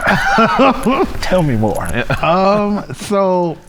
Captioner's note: laughing